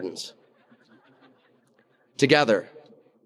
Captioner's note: audience laughing